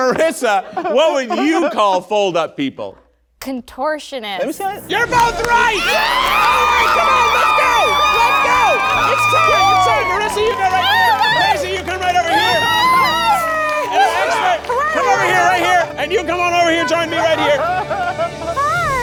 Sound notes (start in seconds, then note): 5.9 everyone cheering